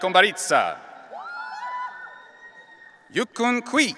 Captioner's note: audience cheering